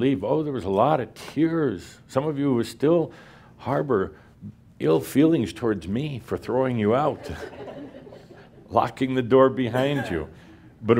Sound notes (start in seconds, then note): 7.2 some laughter